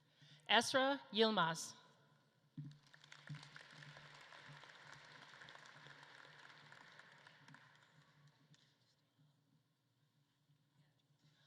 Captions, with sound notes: Esra Yilmaz. (audience claps)